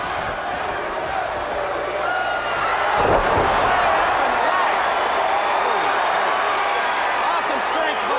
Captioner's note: crowd cheering